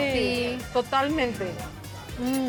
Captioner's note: speaking Spanish